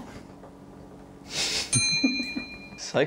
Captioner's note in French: rire